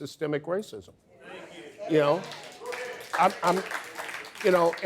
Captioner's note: audience applause